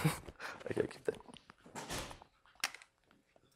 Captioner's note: laughter